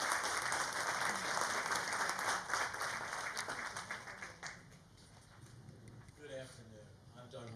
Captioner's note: applause